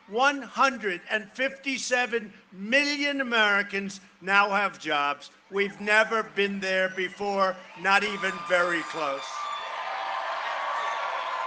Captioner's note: cheering and applause